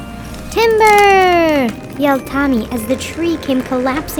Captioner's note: wood crackling